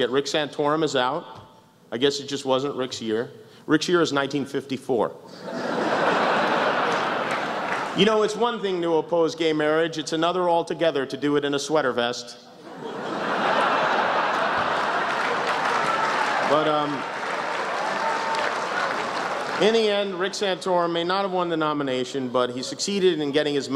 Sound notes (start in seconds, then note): 5.4 laughs; 13.9 laughter, applause